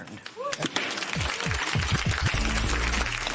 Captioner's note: applause